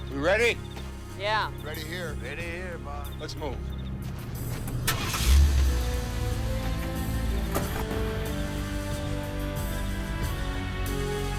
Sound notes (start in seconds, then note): 5.1 slow dramatic music; 5.1 truck engine revs